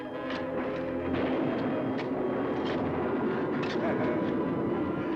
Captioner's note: thunder rumbling